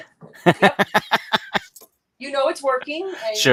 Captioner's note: laughs